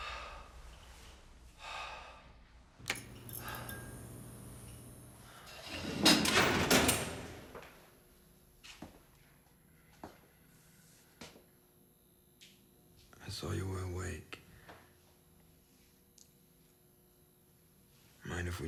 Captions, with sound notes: (switch clicks) (bulb buzzes) (metal clacks) - I saw you were awake. Mind if we talk?